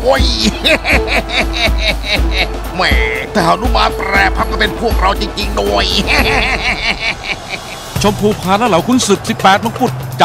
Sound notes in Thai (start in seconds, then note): 6.9 หัวเราะ